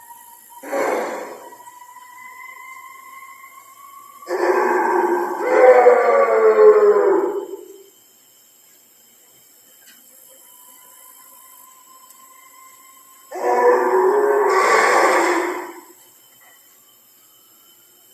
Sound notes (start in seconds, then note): 0.0 eerie music; 0.9 roaring